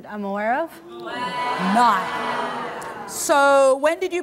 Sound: audience gasping

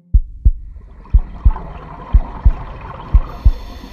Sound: heart beating; water bubbling; breathing underwater

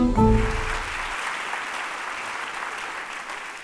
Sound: applause

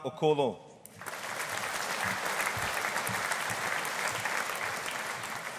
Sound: audience applauding

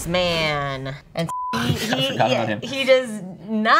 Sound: beep

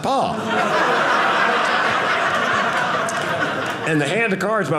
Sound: audience laughing

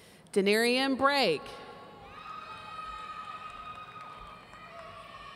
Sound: audience cheering

